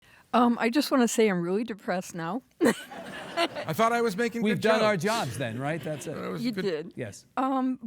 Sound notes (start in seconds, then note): 2.6 hosts and audience laughing; 2.7 laughing